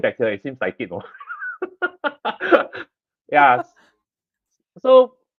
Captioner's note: laughs